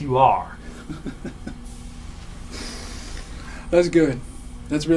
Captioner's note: Jack laughing